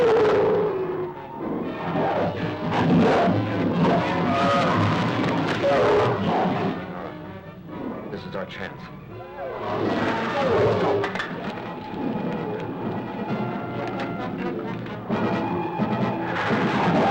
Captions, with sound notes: - All right, this is our chance. (animals bellowing) (dramatic music) Let's go! (animals bellowing) (dramatic music)